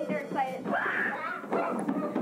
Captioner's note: screaming